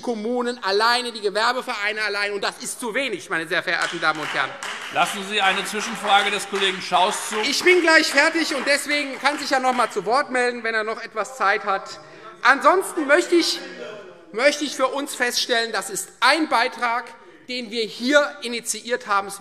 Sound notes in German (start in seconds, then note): 3.7 Beifall Freie Demokraten